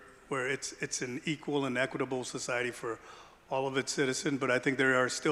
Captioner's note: none